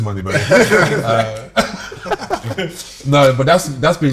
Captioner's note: group Laughter